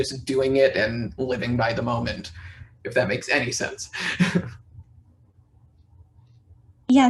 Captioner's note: laughs